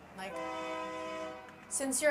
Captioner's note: SFX: Train Horn